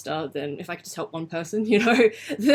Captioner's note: laughs